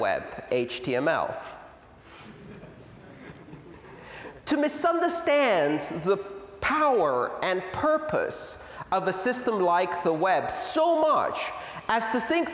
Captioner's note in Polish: Śmiech